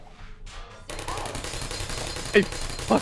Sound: gunfire

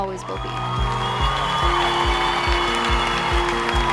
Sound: crowd cheering

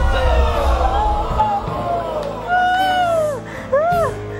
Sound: crying

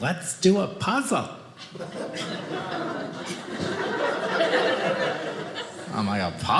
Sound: audience laughing

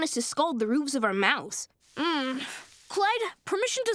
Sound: groaning

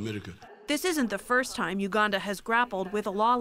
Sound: voice-over

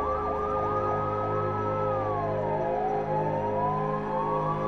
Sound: siren continues wailing

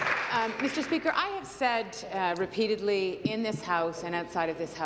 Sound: applause

